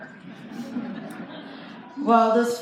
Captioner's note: light laughter